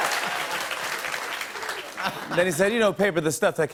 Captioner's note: applause; normal voice